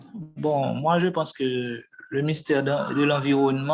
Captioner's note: non-english speech